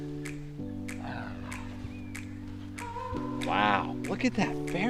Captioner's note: sighs